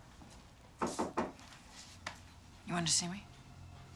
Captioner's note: knocking